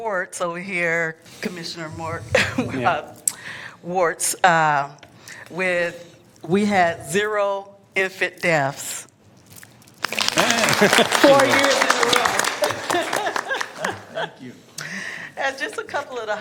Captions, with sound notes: BLACK MOTHERS UNITED PROGRAM. AND SO I WANT TO REDEEM AND SO I WANT TO REDEEM COMMISSIONER WIRTZ OVER HERE COMMISSIONER WIRTZ OVER HERE WITH -- WE HAD ZERO INFANT WITH -- WE HAD ZERO INFANT DEATHS! DEATHS! [Applause] [Applause] FOUR YEARS IN A ROW!